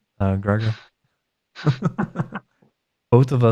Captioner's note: laughs